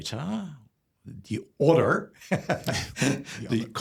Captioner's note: laughs